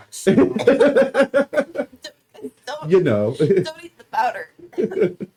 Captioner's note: Cordelia, coughing